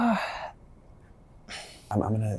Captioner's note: sighs